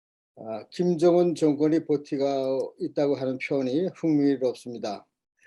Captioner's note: speaking Korean